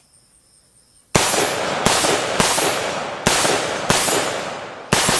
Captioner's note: gunshots firing